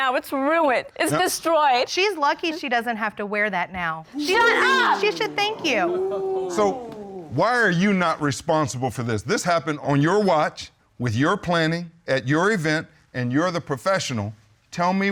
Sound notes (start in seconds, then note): 4.1 audience exclaiming